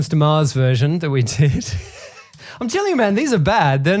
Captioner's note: laughs